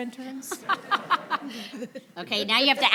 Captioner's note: people laugh